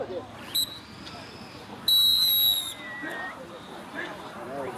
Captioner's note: whistle sounding